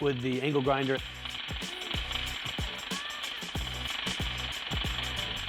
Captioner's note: angle grinder rattling